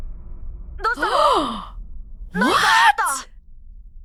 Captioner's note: gasps